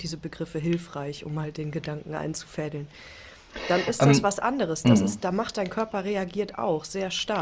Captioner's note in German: räuspern